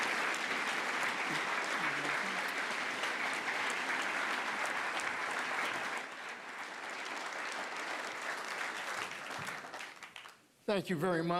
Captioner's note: applause